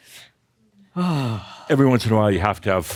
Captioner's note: sighs